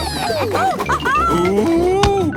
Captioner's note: laughing